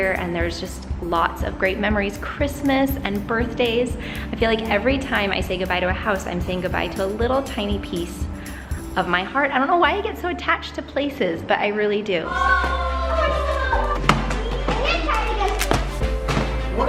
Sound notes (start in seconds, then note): 12.3 water bottles crunching